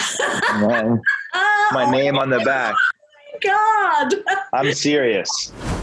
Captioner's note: laughs